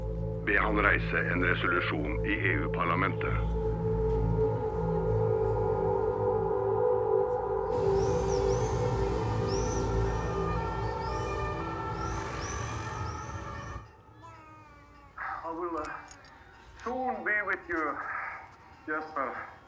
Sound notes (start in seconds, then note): 10.0 siren blaring; 14.1 baby cooing